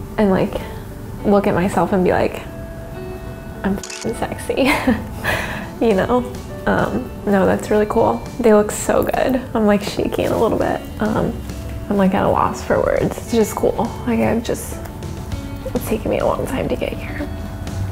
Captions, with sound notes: I look at myself and be like, "I'm (camera clicks) sexy." (laughs) No, that's really cool. They look so good. I'm shaking a little bit. I'm at a loss for words. It's just cool. It's taken me a long time to get here,